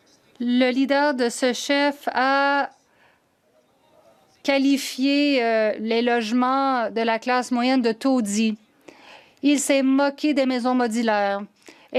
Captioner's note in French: voix de l'interprète